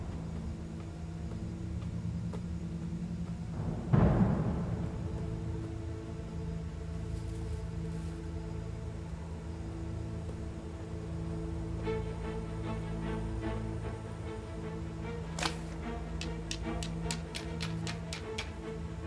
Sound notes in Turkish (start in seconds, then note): 15.3 Çakmaktaşı sürtme sesleri